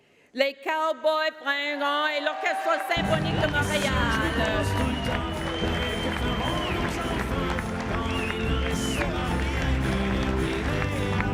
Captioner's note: speaking French